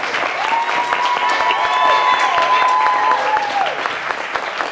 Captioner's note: audience cheering